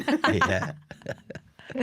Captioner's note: laughter